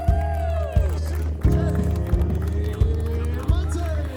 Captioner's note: people cheering